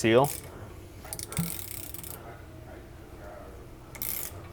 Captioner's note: ratchet clicking